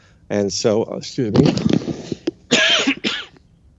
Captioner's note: coughs